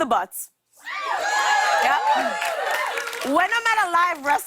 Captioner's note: cheers and applause